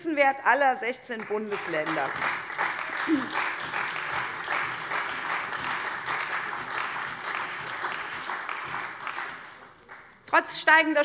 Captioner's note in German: Beifall bei der CDU und dem BÜNDNIS 90/DIE GRÜNEN